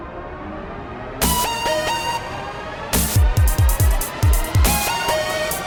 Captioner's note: dubstep music; buzzsaw